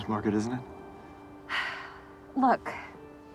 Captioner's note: sighing